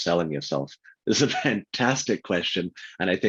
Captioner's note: laughs